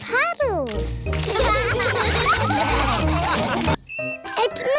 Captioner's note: all laugh